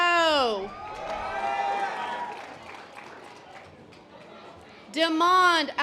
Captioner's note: audience applause